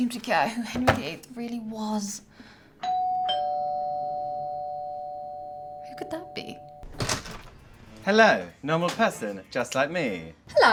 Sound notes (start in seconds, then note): 2.8 doorbell chimes